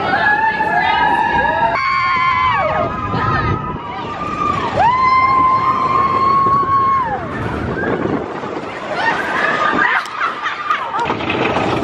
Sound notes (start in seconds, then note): 1.7 loooots of wooing